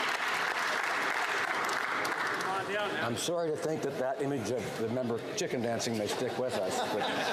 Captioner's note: some Applause